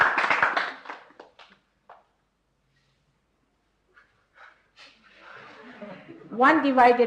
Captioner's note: laughter and applause